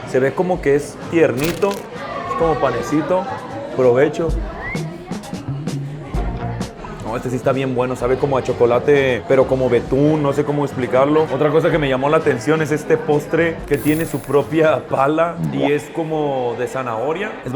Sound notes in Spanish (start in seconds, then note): 4.6 Chiflido pastelero